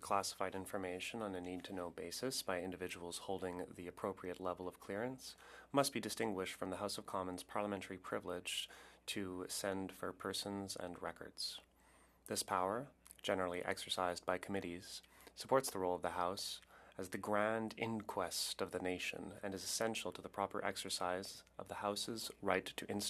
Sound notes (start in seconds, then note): 4.2 speaking French